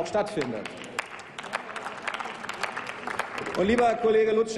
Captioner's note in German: Applaus